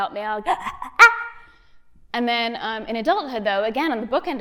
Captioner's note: grunting